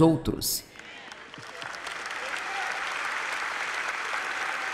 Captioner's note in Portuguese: audiência aplaude